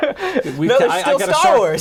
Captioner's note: laughing